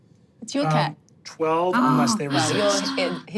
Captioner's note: gasps